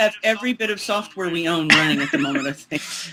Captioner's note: laughs